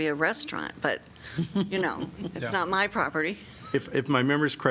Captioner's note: laughter